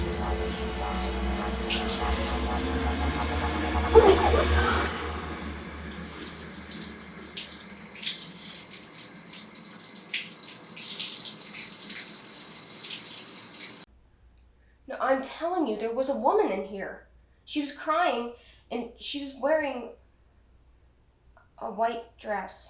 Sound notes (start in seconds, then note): 3.9 Lorraine gasping